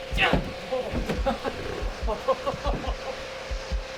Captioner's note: stalker Laughing